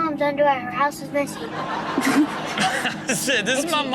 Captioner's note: audience laughs